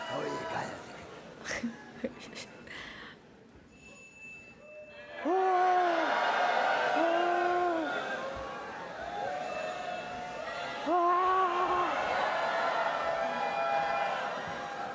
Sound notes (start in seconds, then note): 0.1 speaking spanish; 6.8 audience shouting